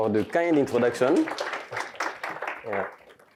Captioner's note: audience applauding